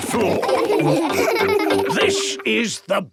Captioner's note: laughing